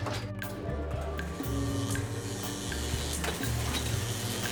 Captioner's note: buzzing of electrical current